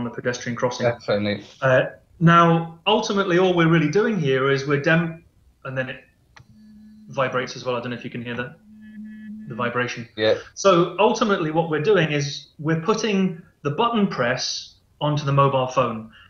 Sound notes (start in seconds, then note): 6.4 phone vibrates